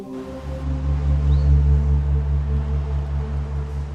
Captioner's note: eerie vibrations